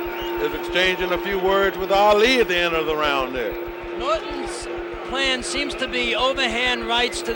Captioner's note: bell sounds